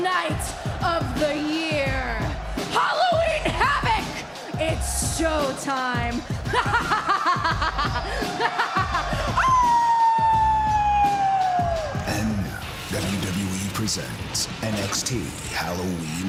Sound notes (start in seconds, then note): 6.4 laughs